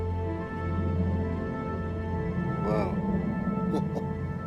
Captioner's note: laughs